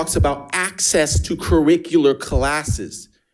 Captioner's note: none